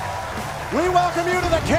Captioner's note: cheers & applause